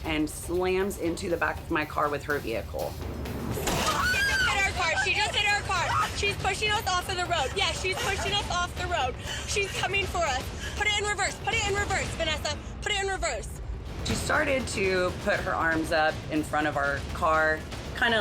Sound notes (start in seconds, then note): 3.4 car loudly clatters; 3.8 loudly screams